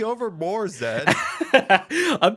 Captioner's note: laughs